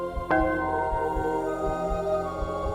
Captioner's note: bell